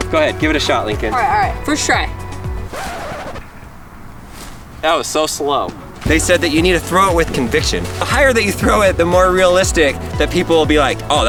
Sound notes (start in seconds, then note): 2.6 record scratching